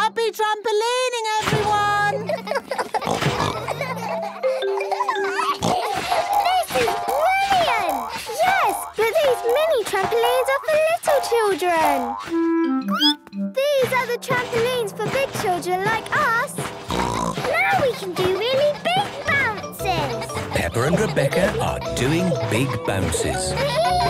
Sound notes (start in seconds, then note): 2.0 all laughing; 5.1 giggles, snorts; 12.8 squeaks; 16.6 snorts